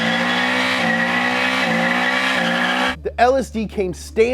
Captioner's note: engine revving